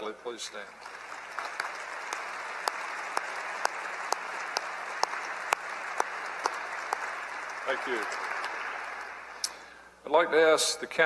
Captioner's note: applause